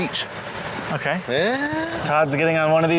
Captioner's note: pitch rising